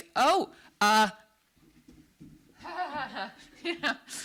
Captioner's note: laughs